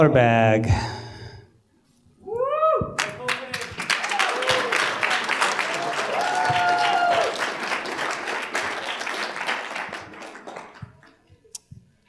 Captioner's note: applause